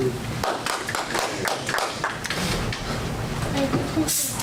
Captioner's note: audience applause